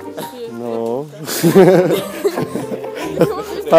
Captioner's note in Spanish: risas